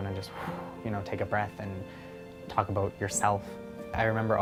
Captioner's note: exhales